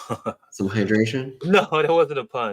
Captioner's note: laughs